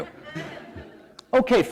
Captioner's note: laughter